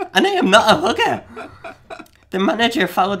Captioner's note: laughing